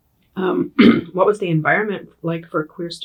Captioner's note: clears throat